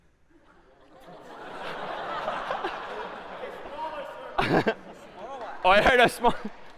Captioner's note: laughter